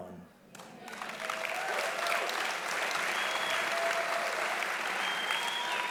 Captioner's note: audience applauding loudly